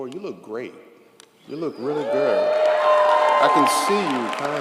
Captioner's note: audience applauds & cheers